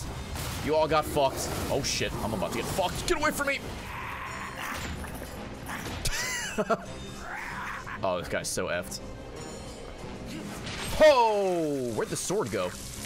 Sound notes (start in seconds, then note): 7.1 laughs